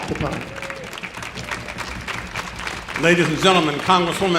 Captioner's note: audience applauding